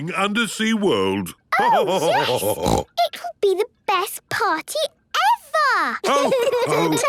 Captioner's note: laughter and snorting; laughter